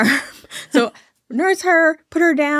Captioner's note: chuckling